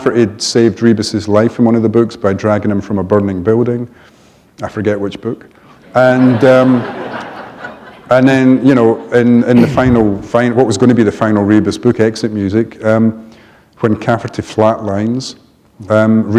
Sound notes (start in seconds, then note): 5.9 laughter